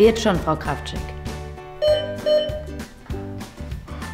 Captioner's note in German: Signal-Geräusch ertönt